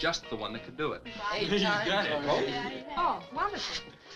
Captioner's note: all chattering